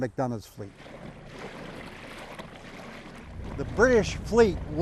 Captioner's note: water whooshing